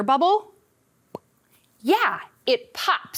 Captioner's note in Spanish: imita el estallido burbujeante